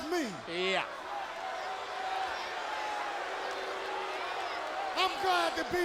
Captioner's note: audience booing